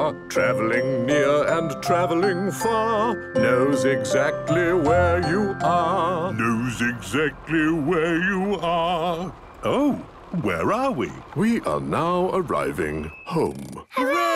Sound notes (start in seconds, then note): 6.7 mimicking tune